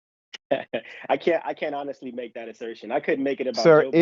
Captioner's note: laugh